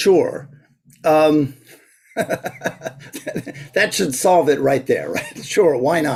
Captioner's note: laughs